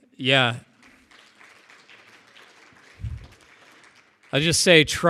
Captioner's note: audience applauding